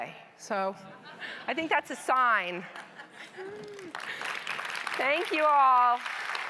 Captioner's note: audience laughing; audience applauding